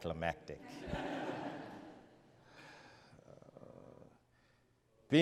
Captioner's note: audience laughs